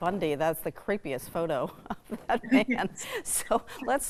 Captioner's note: chuckles